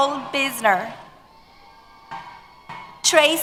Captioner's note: cheers